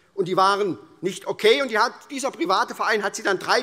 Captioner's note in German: none